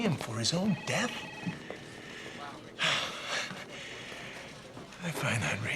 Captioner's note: sighs